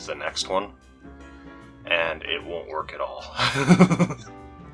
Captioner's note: laughs